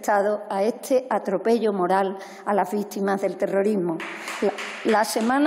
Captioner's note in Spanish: Aplausos